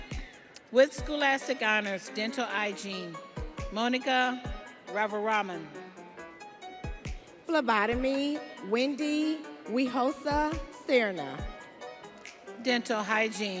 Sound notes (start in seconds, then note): none